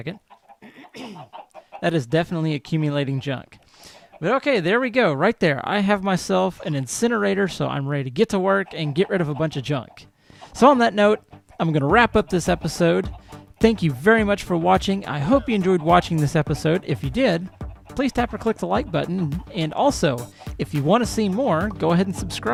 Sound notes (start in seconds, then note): 0.6 clears throat; 7.5 llama snorts